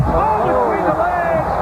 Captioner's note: fans cheering